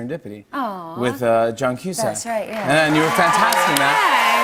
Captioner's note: cheers and applause